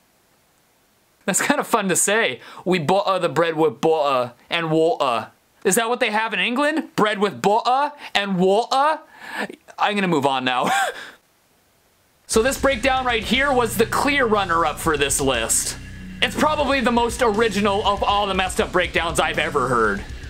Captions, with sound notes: That's kind of fun to say. (awful Brit imitation) Is that what they have in England? Bread with bo'a and wo'a? I'm gonna move on now... So this breakdown right here was the clear runner-up for this list. It's probably the most original of all the messed up breakdowns I've ever heard.